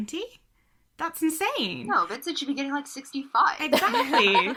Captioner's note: sarcastically; hosts laugh